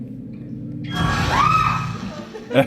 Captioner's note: screaming